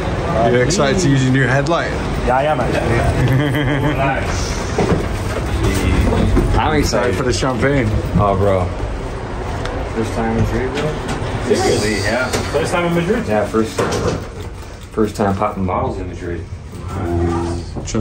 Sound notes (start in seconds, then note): 2.8 laughs